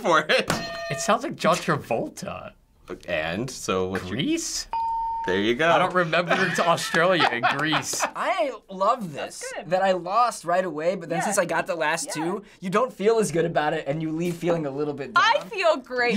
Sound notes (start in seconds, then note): 0.0 laughing; 0.6 hitting bell; 4.8 ding